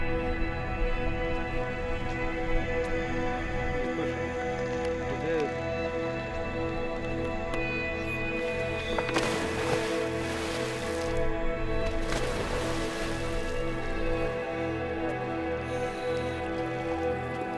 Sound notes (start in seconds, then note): 8.3 water splashing; 9.4 dramatic music